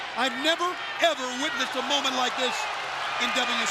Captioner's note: crowd cheering